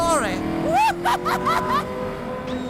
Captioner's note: laughs